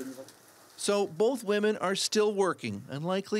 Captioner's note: speaking russian